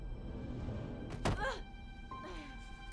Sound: thudding; woman groans

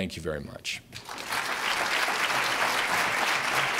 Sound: applause

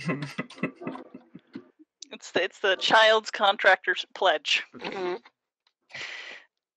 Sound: laughter

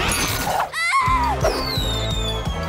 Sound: screaming

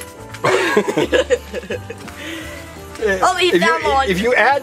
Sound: assistant laughs

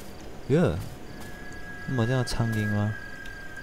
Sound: insects

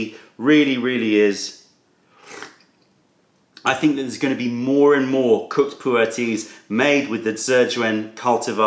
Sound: sips tea

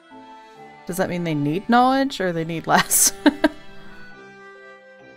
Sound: laughs

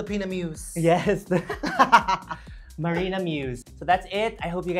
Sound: laughs

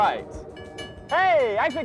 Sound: train whistle and bells in the distance

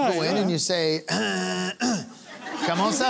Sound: clears throat

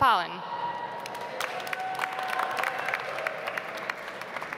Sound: audience applauds

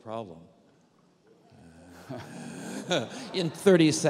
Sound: laughter

